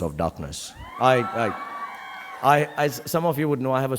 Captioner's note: audience cheering